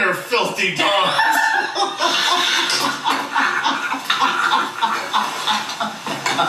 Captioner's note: both laughing incredibly